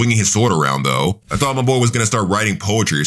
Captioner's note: air whooshing